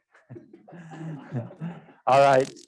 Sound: laughter

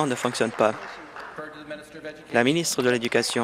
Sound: applause

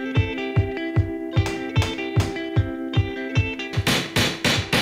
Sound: hammering

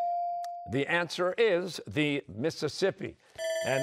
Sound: bell ringing

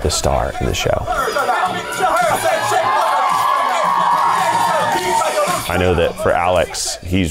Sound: crowd cheering

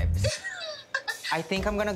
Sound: laughs

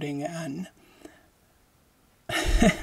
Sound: laughing

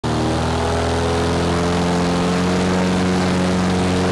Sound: wind fan blowing

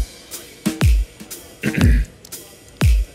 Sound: clears throat

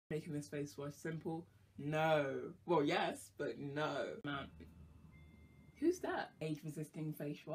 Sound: doorbell rings

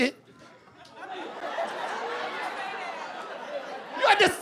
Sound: laughter

